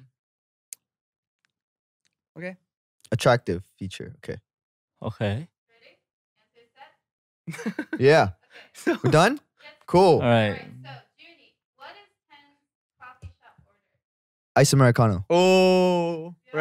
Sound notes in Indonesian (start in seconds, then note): 3.4 menggumam